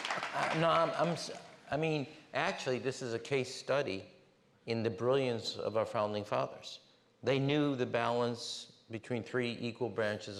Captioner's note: applause